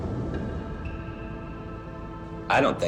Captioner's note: wind blowing; waves crashing